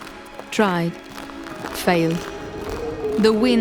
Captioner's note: hurrying footsteps